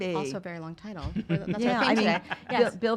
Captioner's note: laughs